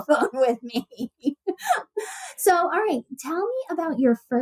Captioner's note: laughs